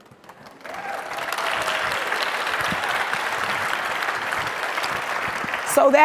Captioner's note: audience cheers and applauds